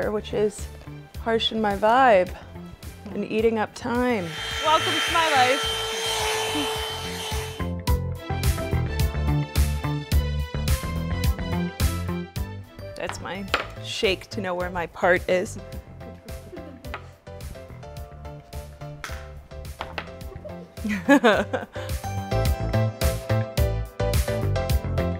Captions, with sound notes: which is harshin' my vibe and eating up time. (blow dryer humming) Welcome to my life. (upbeat music) That's my shake to know where my part is. (upbeat music) (laughs) (upbeat music)